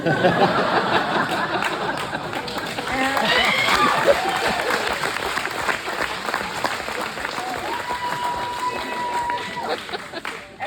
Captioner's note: laughter, applause, and cheers